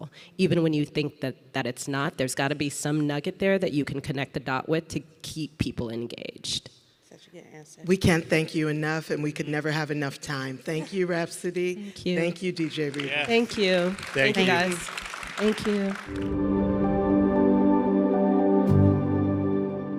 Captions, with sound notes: even when you think that it's not, there's gotta be some nugget there that you can connect the dot with to keep people engaged. - Such a good answer. - We can't thank you enough and we could never have enough time. Thank you, Rapsody. - Thank you. - Thank you DJ Reborn. - Yes. - Thank you. - Thank you. (audience applauding) - Thank you guys. - Thank you. (upbeat ambient music)